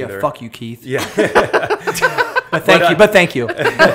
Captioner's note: laughter